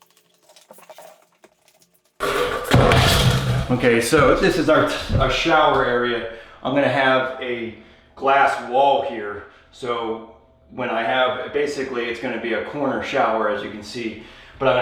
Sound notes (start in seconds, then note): 2.2 tools clattering